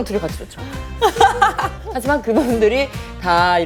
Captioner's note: laughs